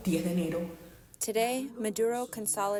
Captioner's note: through translator